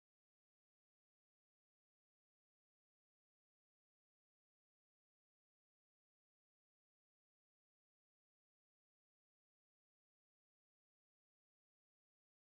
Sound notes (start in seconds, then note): none